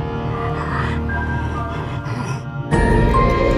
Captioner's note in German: Leises Grollen; Bedeutungsvolle Musik